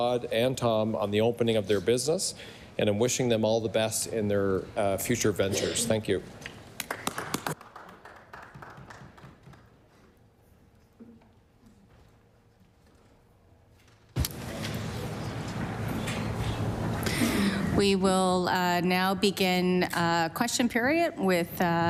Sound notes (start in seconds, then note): 9.5 applause